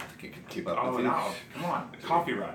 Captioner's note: sighs